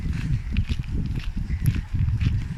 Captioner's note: footsteps on sandy ground